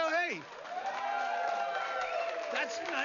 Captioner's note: vítores y aplausos